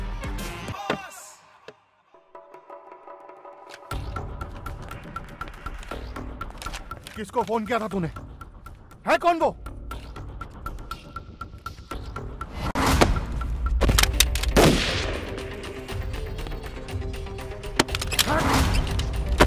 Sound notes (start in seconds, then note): 6.3 guns clicking; 14.5 gun shot